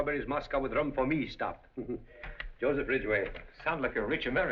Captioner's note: chuckles